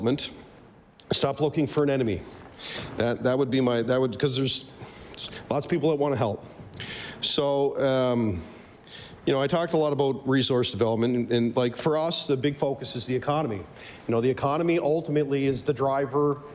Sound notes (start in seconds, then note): none